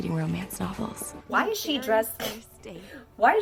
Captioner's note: 𝘴𝘯𝘰𝘳𝘵𝘴